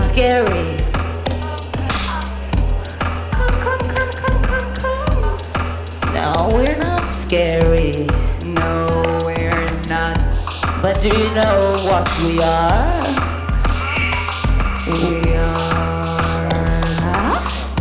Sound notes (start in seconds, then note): none